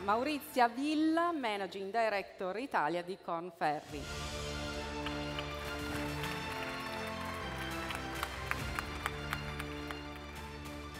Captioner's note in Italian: Applauso